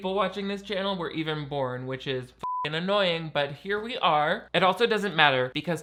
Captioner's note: beep